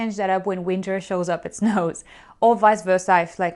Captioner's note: chuckles